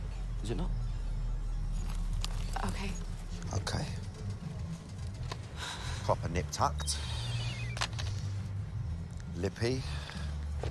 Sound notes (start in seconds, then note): 4.8 sighs; 7.0 cell phone beeping